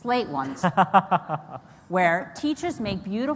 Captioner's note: Reihan Salam laughs